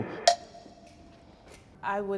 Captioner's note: beeps